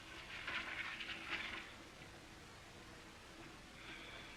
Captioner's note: paper shuffling